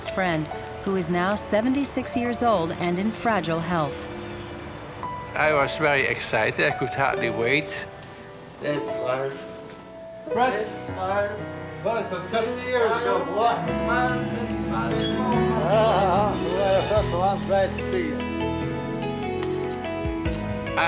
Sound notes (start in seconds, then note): 8.6 speaking german; 13.8 speaking german; 15.4 chuckles